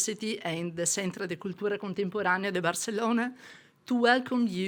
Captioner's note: speaking in foreign language